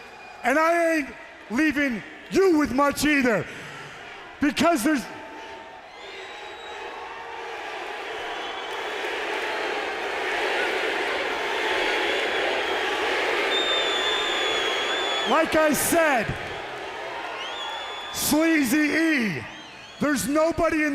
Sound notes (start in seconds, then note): 5.9 crowd cheering